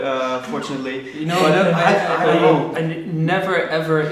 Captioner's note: laughing